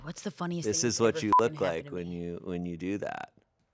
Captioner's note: beep